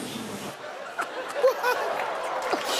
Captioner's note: laughter